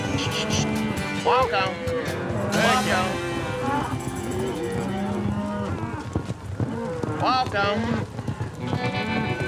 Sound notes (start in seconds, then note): 0.0 cows moo; 3.2 hooves beating